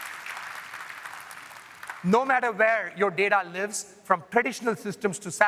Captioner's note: applause